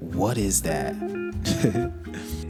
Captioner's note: giggles